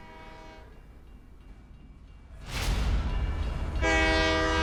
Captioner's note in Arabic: قرع الأجراس العابرة; قرع البوق